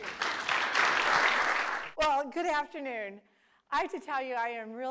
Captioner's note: applause